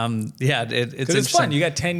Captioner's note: laughing